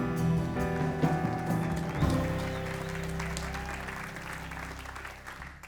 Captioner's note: audience applauds